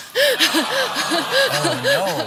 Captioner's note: audience awwing